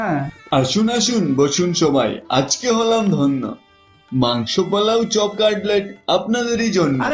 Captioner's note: speaking in Bengali